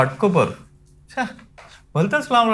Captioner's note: scoffs